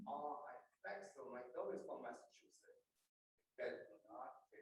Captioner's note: voice muffling